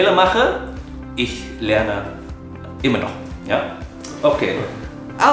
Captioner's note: German